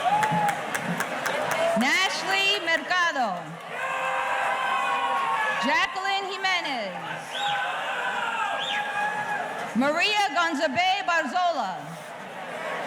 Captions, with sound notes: Nashley Mercado. (audience cheering) Jacqueline Jimenez. Maria Gonsobei Barzola.